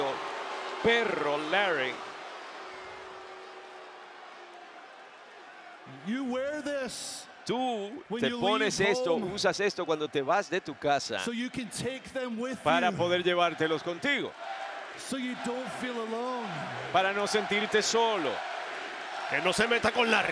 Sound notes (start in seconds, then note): 0.0 applause